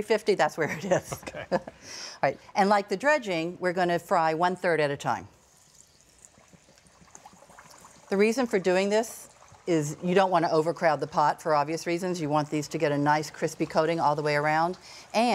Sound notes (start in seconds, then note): 0.8 laughing; 5.3 chicken sizzling